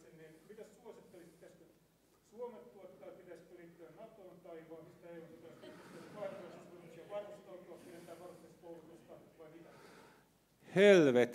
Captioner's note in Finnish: tämä herätti naurua yleisössä